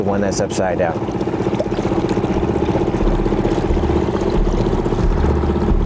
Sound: boat engine purring

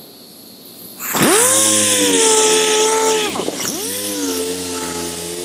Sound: loud sander polishing sounds

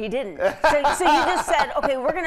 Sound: laughing

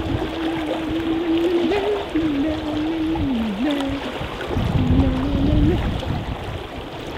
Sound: hums

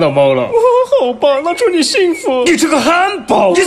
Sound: sobbing

